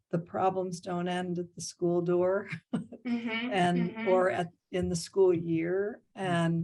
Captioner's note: laughing